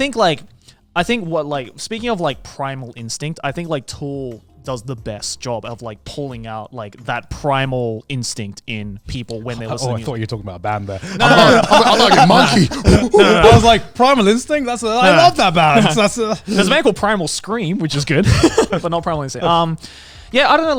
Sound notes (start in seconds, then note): 11.0 blabbering; 18.2 laughing